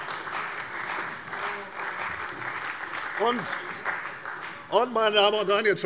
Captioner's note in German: Beifall bei der CDU und bei Abgeordneten der GRÜNEN